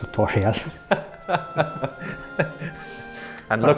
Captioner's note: laughter